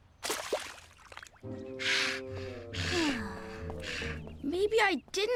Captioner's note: sighing